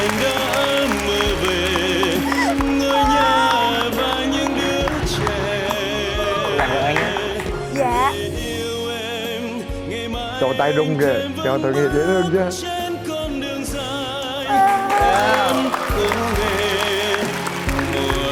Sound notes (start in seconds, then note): 14.4 cheering; 14.5 applause